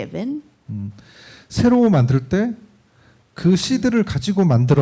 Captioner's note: speaking korean